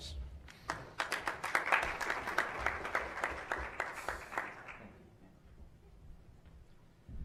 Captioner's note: applause